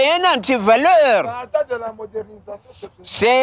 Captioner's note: crowd